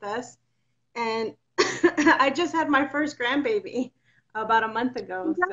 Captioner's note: coughs